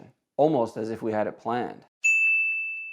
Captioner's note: bell rings